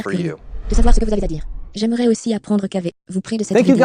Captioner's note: whoosh